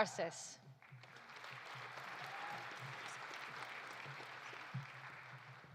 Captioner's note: audience applauding